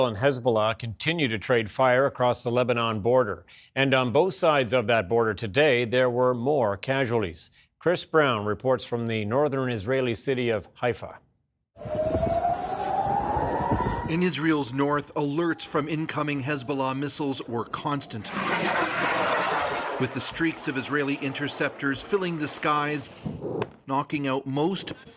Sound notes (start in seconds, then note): 18.3 sound of siren